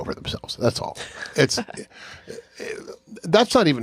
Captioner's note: chuckles